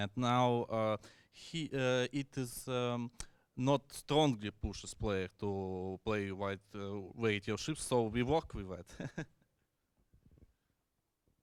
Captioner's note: chuckles